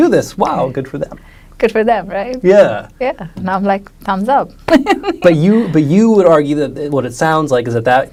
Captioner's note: laughs